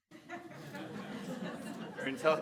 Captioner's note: audience laughter